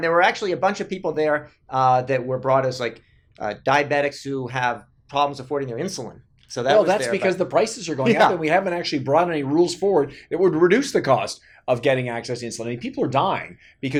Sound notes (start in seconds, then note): 8.0 laughing